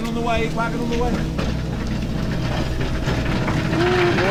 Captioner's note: wagon rattling